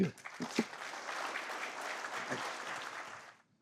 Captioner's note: applause